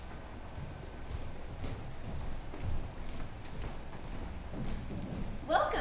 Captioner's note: footsteps pattering